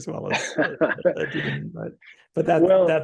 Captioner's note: laughing